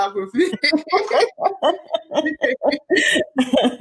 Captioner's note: laughing